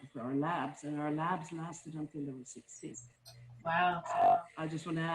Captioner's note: faintly speaking